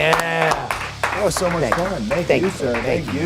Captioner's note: people clapping